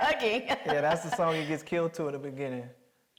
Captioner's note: Mireille laughing